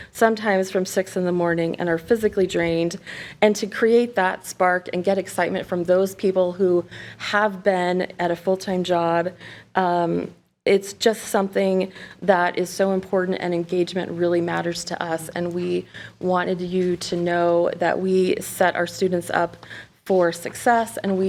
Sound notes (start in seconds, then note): none